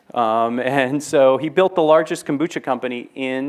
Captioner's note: laughs